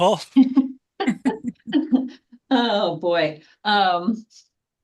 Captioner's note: laughs